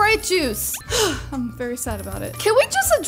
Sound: sighs

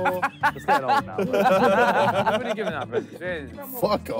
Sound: all laughing

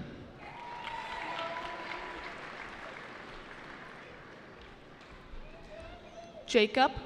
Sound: cheering

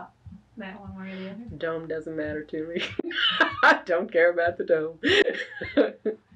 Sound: laughs

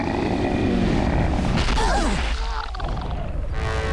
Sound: grunting; groaning

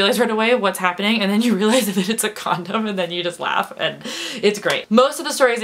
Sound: laughs

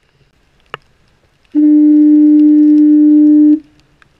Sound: foghorn

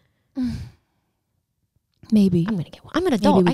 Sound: sighs

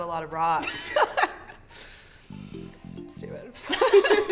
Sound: laughing

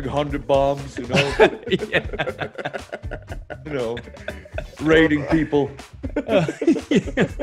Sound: laugh

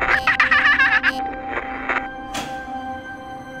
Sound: radio static; sinister laughter over radio

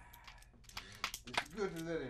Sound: fingers cracking

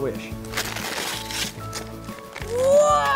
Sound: paper ripping

